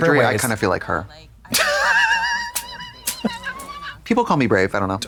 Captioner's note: Katya crinkles